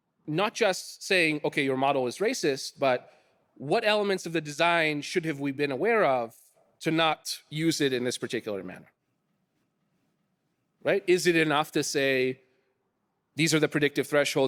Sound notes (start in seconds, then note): none